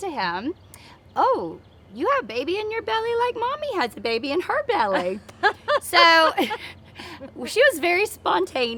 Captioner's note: laughter